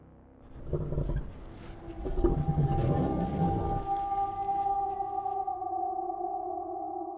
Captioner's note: eerie music; Bigfoot growling